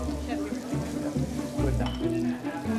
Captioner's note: chefs chattering; pans sizzling; enthusiastic music